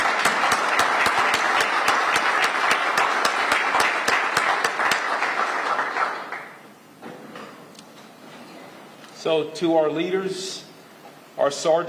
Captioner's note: applause